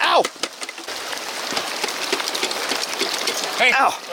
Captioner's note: water gurgling